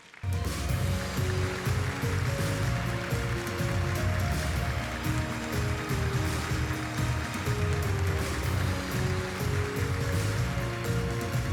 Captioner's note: applause